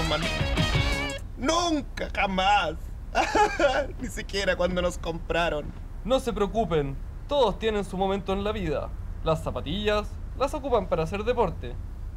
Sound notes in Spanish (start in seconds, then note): 2.7 Llorando